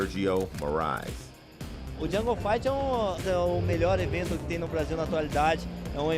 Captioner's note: speaking Portuguese